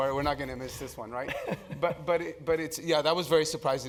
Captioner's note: laugh